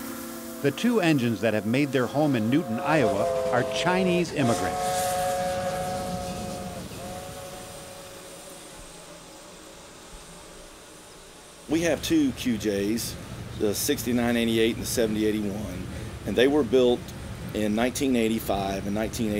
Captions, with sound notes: The two engines that have made their home in Newton, Iowa are Chinese immigrants. (train whistle) (steam hissing) - We have two QJs, the 6988 and 7081, and they were built in 1985 and 1986.